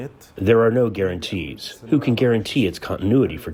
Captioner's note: through translator